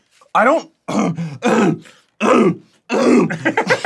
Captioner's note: grunting; laughs